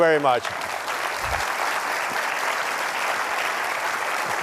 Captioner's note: applause